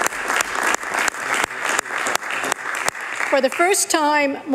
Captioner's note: applause